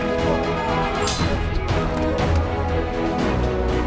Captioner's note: swords clanging; dramatic music